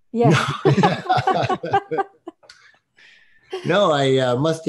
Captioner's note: laughing